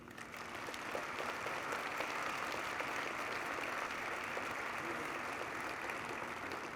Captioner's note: applause